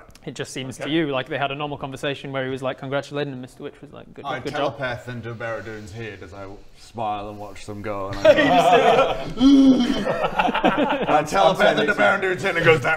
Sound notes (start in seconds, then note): 9.9 laughs